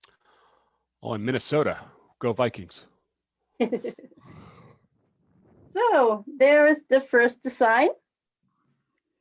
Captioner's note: chuckles